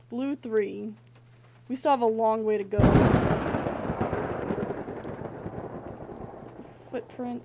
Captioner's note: thunder